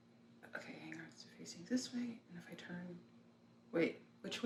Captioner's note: whispering